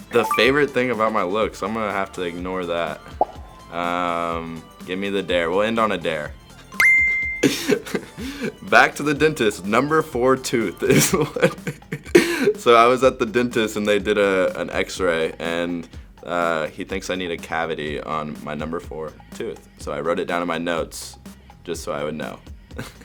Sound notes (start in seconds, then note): 6.8 ding; 10.9 laughing